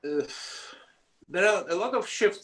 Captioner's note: sighs